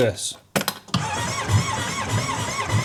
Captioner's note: engine not strting noise